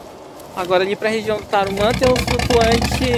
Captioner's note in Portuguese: som de vento